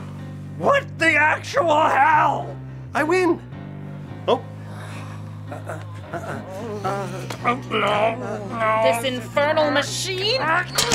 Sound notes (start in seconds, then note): 5.5 grunting